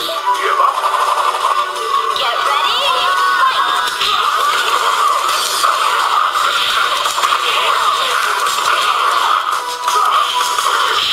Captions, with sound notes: - [Voiceover] Get ready, fight. (electronic beeps and crashes)